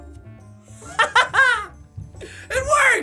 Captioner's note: triumphant laughter